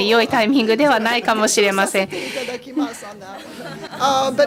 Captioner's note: speaking japanese